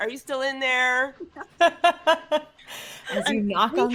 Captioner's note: laughing